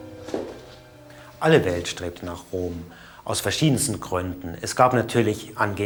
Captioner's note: speaking in German